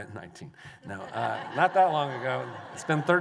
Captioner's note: laughter